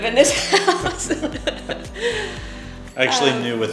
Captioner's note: laughing